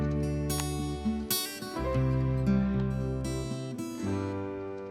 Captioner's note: light switch clicks